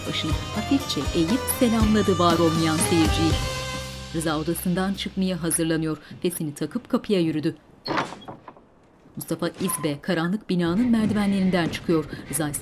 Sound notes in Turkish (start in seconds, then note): 7.8 Kapı açılma sesi; 10.7 Müzik - Gerilim